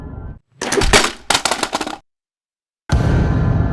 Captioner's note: scooter sound effects